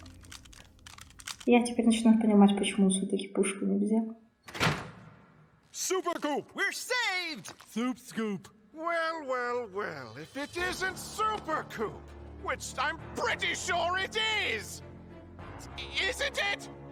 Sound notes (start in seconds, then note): 4.4 хлопок дверьми